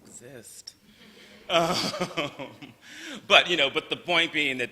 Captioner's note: laughter